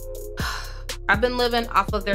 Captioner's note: sigh